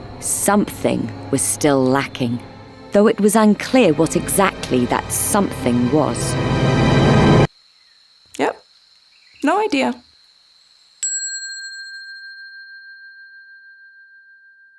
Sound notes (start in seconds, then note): 6.3 ominous music; 11.1 bell ringing